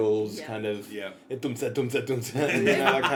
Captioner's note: imitates 90's dance techno beat